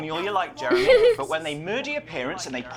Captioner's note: chuckles